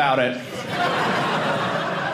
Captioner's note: audience laughing